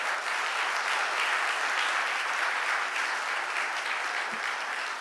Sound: audience applauding

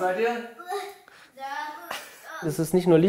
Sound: chuckling, laughing

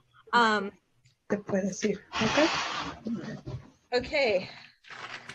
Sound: speaks Spanish

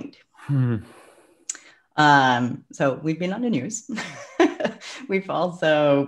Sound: sigh; clicks tongue; laughs

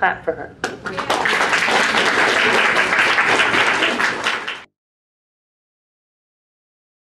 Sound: clapping

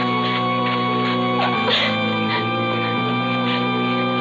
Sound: crying

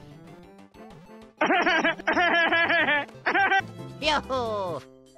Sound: Luigi laughs at the man foiled by his dastardly scheme

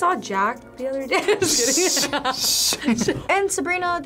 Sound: laughs

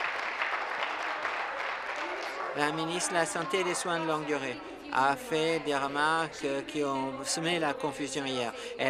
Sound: some Applause

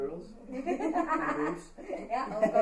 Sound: all laughing

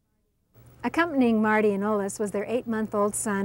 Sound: voiceover

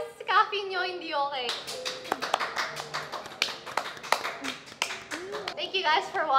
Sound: clapping

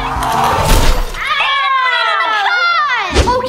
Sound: car bangs

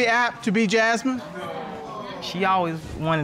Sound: audience exclaiming

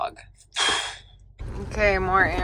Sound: sharply exhales

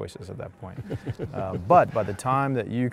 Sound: chuckling

